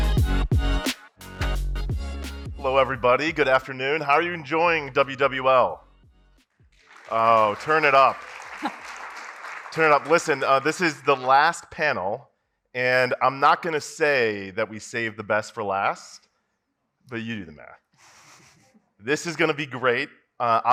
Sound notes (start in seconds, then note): 6.7 audience applauds